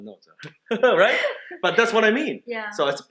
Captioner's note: laughing